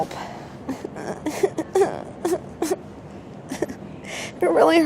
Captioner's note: cries